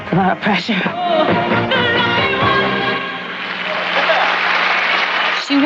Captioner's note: applause